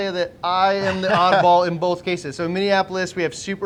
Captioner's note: laughing